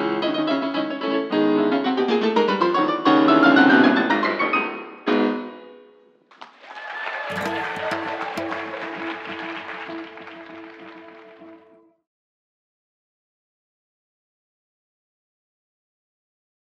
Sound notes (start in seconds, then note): 6.2 applause